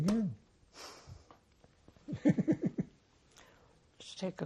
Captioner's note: laughing